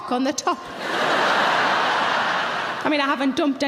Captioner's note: audience laughing